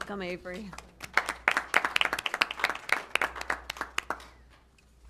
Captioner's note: applause